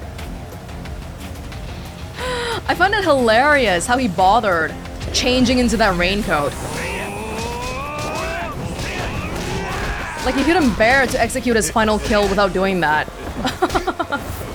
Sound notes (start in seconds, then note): 2.1 exhales; 13.6 chuckles